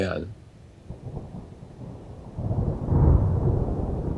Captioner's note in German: Donnern